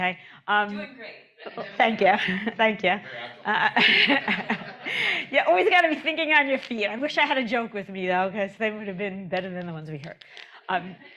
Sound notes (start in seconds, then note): 3.4 chuckle